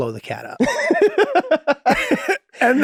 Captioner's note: Rob laughing amusingly; Charlie laughing amusingly